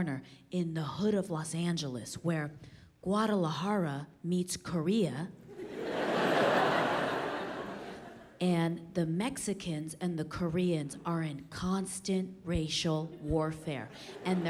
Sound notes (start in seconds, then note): 5.5 audience laughs